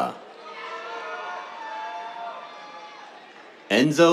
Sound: cheers, applause

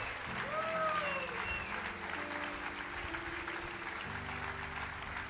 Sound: congregation applauding

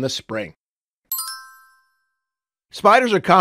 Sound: chimes

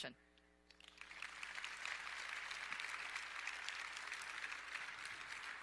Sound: audience applauds

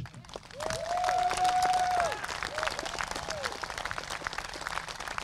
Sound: applause, cheering

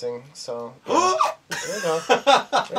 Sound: gasps

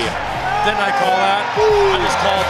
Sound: cheering

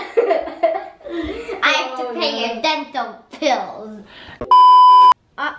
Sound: laughing

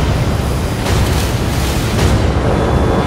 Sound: sounds of clanging and banging

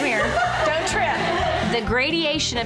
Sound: laughs

